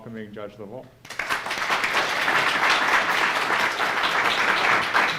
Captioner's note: audience clapping